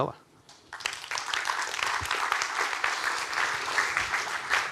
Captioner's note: audience applauding